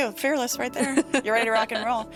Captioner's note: laughing